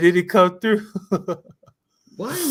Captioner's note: laughter